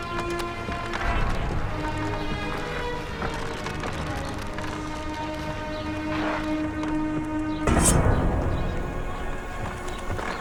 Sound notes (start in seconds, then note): 7.6 sword unsheathed; 9.2 running footsteps